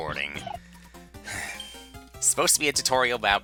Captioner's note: sigh